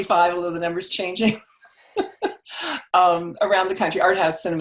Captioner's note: laughs